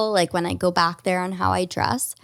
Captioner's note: none